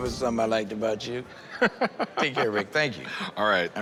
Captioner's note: laughs